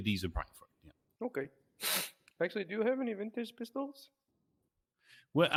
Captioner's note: sniff